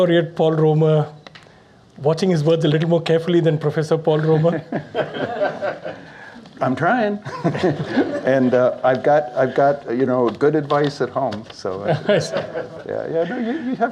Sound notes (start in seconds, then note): 4.4 laughter; 7.2 laughs; 7.3 audience Laughs; 11.8 laughter